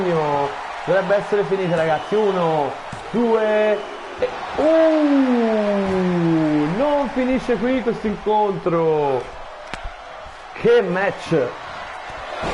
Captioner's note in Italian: Applauso